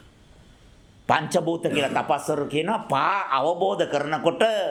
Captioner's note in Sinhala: උගුර කෑරීම